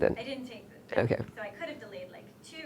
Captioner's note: voiceover